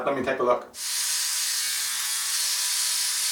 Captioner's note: buzzing